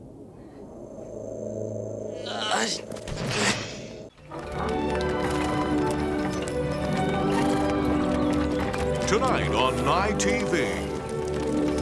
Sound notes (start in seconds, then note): 2.1 groans; 4.4 snorting